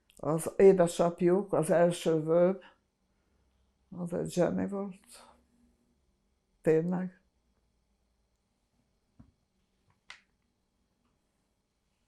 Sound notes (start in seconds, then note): 7.3 pauses 6 seconds